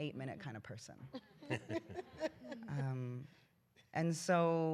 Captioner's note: laughter